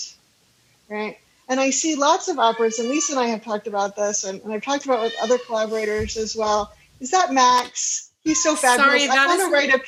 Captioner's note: offscreen meowing